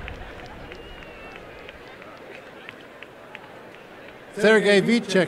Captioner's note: applause and cheering